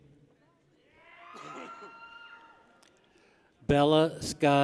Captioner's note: people cheer